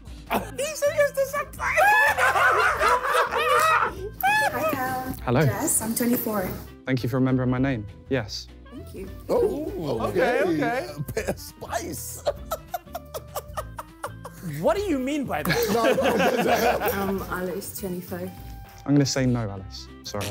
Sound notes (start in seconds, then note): 1.5 laughing; 12.3 laughing